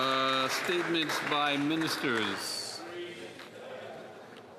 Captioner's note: some Applause